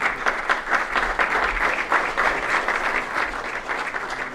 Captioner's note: applause